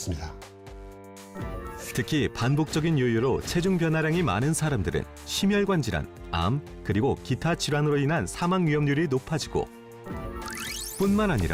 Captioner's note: voiceover